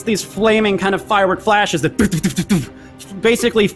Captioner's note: imitates exploding sounds